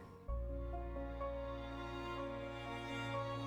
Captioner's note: none